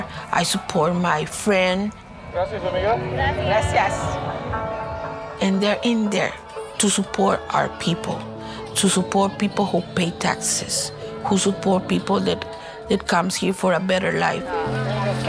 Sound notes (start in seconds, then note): 2.6 parade goers speaking in Spanish; 3.8 speaking in Spanish